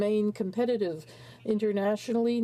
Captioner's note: speaking french